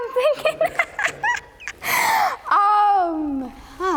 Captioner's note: laughs